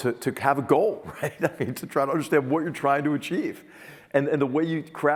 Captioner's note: laugh